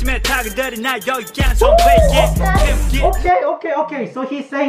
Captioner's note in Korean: 호오오오오!